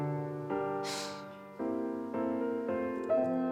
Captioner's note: Dana sighs; Leah humming; piano resonating